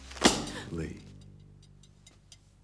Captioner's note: slam